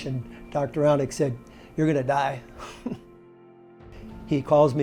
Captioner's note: chuckles